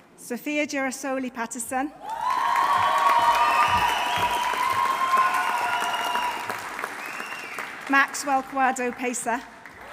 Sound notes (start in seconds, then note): 2.0 audience cheering; 2.0 audience applauding